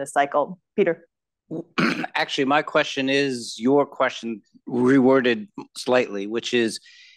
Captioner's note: cough